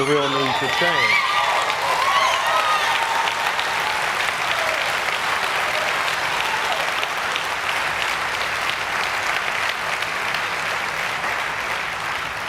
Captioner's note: cheers and applause